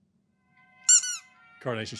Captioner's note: gentle music; squeak